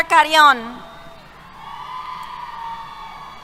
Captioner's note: cheers